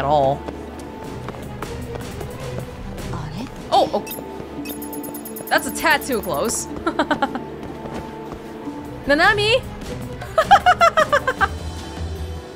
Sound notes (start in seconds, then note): 6.7 chuckles; 10.2 laughs